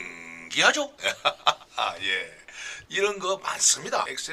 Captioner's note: laughter